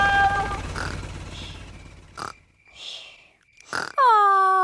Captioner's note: baby alexander snoring